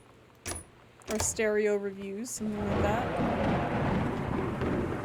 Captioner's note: loud Thunder